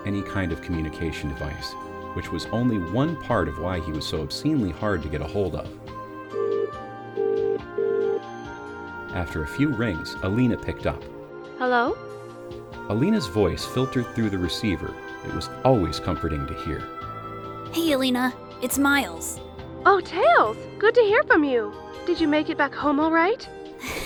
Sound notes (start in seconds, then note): 5.6 phone ringing